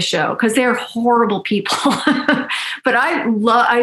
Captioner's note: laughs